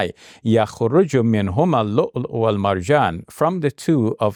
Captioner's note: speaks in Arabic